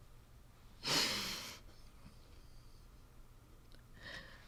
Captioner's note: sobbing